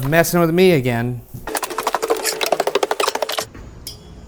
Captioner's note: tape fast-forwarding; eerie pensive music